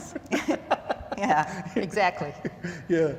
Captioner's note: laughter